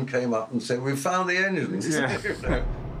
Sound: laughs

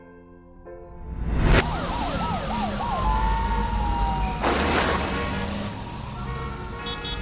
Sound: sirens wailing; car horns beeping

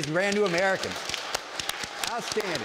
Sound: clapping

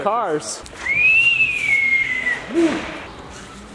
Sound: whistles

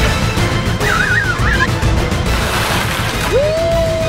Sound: boy screams

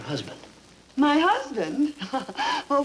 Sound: chuckling

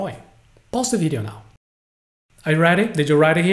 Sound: pause

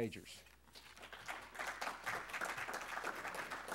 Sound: applause

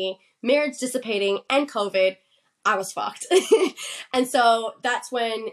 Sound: laughs

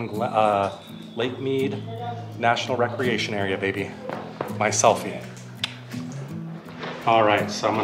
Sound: clicks tongue

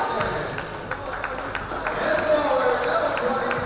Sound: applause

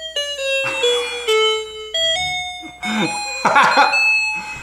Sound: laughter

